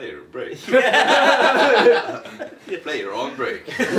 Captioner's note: laughing